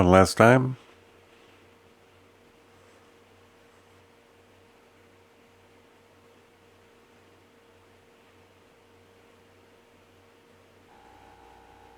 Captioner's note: silence